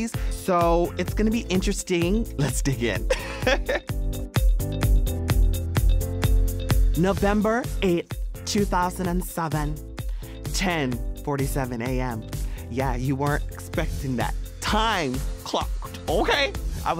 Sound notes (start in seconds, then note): 3.2 laughing; 4.8 upbeat music